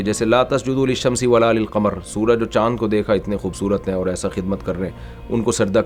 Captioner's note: Arabic